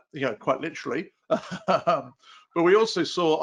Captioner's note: laughs